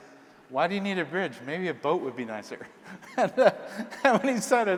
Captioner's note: laughs